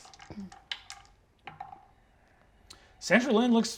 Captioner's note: dice rattling